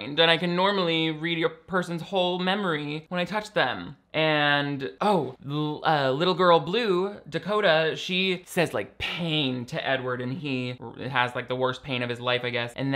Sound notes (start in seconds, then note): none